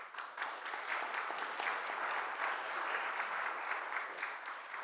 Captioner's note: audience applauds